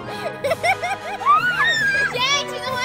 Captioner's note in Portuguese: gritos